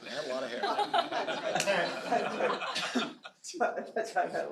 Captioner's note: laughter